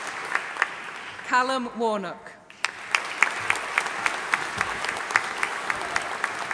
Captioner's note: audience applauding